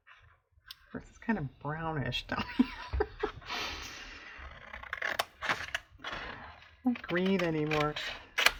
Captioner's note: laughs